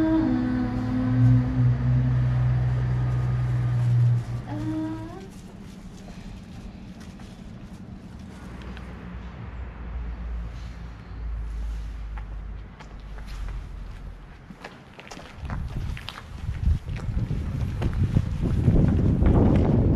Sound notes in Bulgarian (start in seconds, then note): 4.1 уличен, градски шум